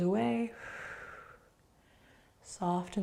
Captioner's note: exhaling